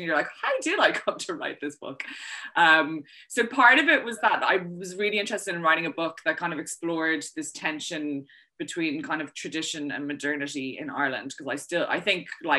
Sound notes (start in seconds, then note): none